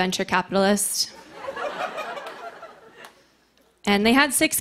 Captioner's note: laughter